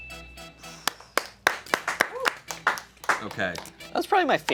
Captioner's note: bell dings; upbeat music; crew cheering and clapping